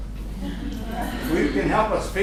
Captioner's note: laughter